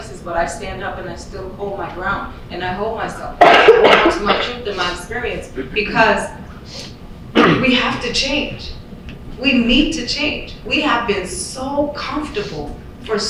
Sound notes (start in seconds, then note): 3.4 loud coughing